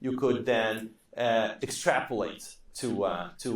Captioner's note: none